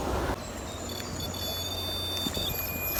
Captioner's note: beeping